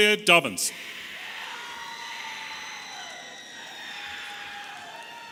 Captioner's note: audience cheering